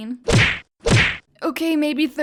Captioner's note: slam; slam x2